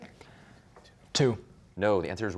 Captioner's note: whispering